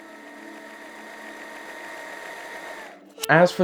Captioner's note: film flickering; eerie music